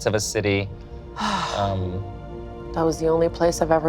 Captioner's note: sighs